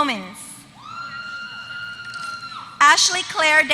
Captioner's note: applause